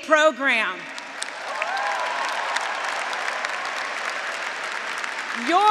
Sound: graduates, audience, and faculty applauding

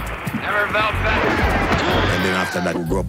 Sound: men fighting

